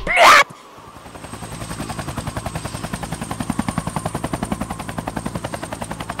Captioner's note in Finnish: tappelun ääniä; helikopteri lentää